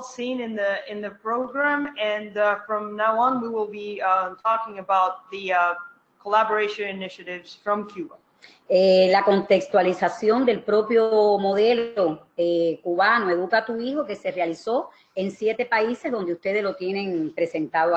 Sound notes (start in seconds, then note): 8.6 speaking another language